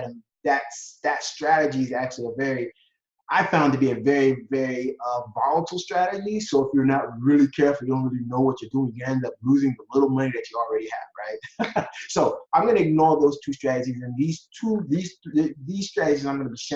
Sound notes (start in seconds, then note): 11.2 laughs